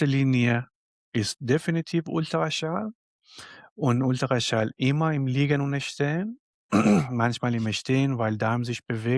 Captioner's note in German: räuspern